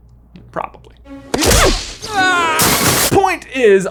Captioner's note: screaming